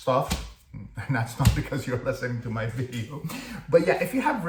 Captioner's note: laugh